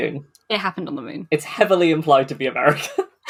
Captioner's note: laughing; laughs